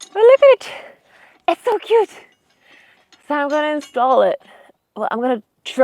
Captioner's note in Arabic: none